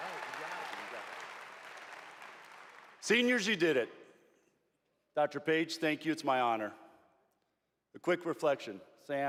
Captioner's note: applause